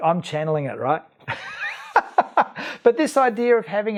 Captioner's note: laughs